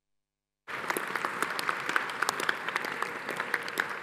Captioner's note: audience applauds